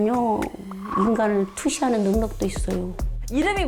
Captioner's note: sees through people sound effect